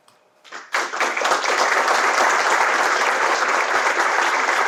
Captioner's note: audience applauds